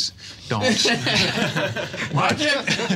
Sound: all laugh

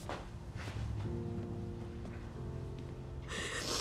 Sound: crying

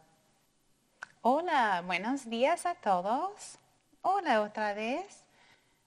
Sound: speaking in foreign language

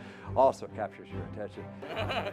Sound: laughter

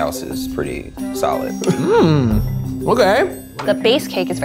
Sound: hums in enjoyment

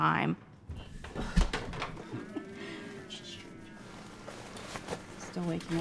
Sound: shuffling; sighing

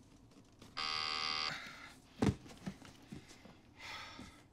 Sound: <i> buzzer</i>

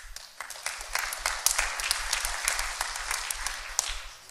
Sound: applause

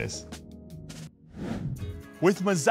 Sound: air whooshing

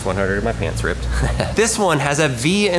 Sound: chuckles

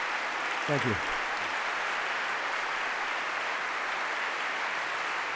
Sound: applause

